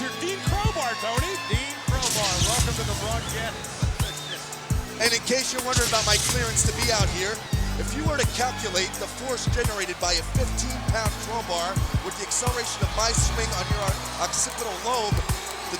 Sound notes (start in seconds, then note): 2.0 electricity crackling